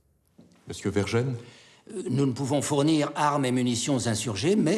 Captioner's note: men speaking in French